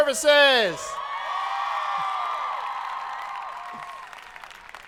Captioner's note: audience cheering